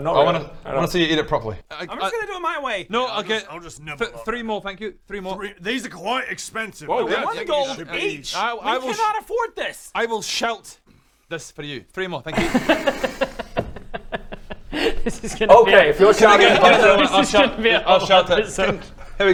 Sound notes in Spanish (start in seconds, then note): 12.3 risa